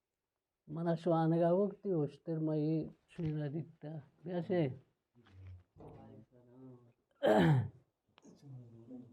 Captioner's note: coughs